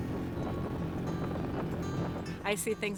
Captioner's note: tires crunching snow